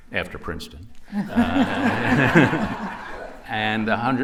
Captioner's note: laughter